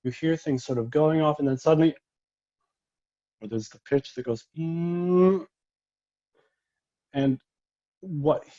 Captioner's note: humming